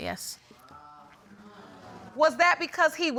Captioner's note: audience murmuring